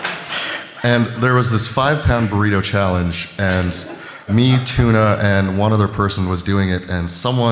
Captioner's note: laughter